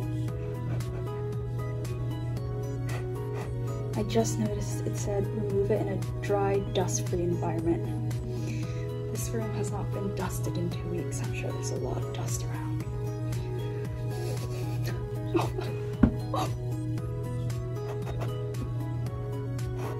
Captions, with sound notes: i just noticed it said remove it in a dry dust free environment this room has not been dusted in two weeks i'm sure there's a lot of dust around *knock*